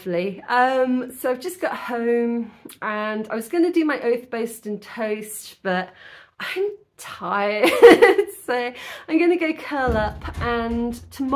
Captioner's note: laughing